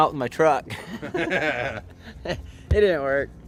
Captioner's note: laughs